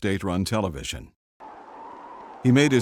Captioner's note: wind howling